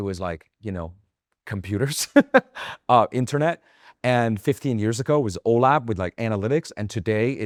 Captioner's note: laughs